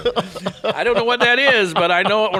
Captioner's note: cohost laughing